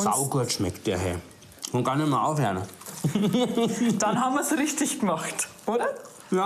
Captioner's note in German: lacht